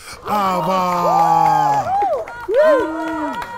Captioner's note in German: Jubel